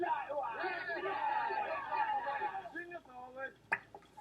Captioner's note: yelling